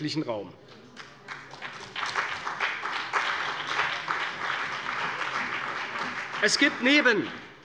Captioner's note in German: Beifall bei der CDU und dem BÜNDNIS 90/DIE GRÜNEN